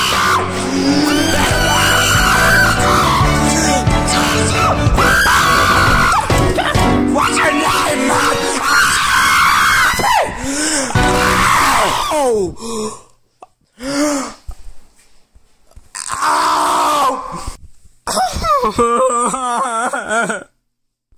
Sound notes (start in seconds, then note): 0.0 pained scream; 16.6 crying